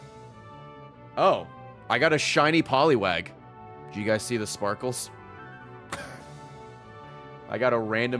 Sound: laughs

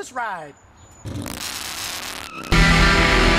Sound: tires screeching

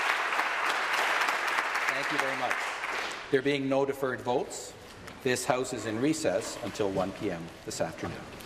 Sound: applause

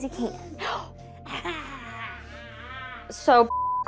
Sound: vocalizing; gasps playfully

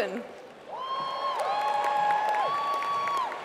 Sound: applause

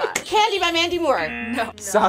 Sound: buzzer rings; buzzer

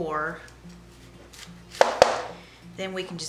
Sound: knife chopping

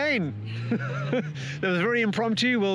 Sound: laughs

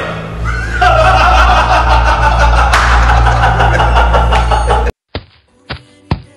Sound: laughter

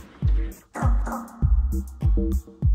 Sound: Mo and Bob enter, walking across a SQUEAKY rubber floor

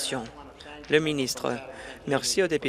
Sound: applause

